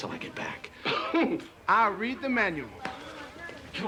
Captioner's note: chuckles